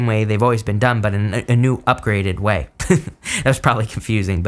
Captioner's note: laughs